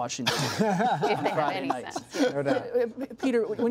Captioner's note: laughter